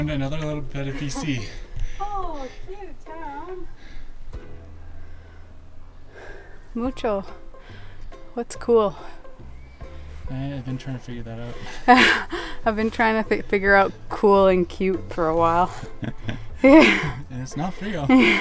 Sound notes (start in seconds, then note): 6.0 in Spanish